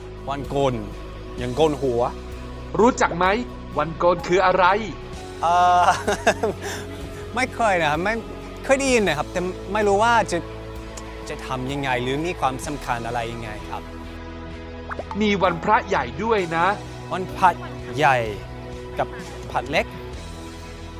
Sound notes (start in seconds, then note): 5.8 laughing